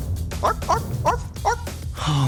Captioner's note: imitating dog barks